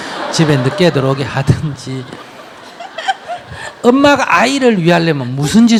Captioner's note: audience Laughter